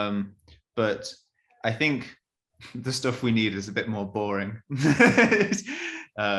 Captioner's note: laughs